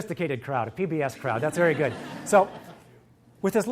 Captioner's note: audience laughs